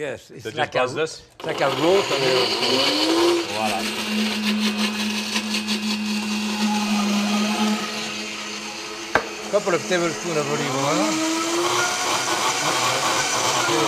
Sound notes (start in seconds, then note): 4.4 blender continues whirring